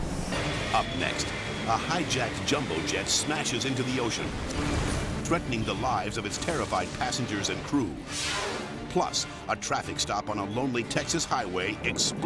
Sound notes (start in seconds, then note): 0.0 dramatic music; 8.0 air whooshes